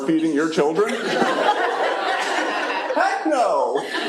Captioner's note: laughter